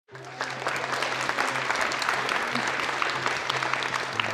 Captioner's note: audience applauding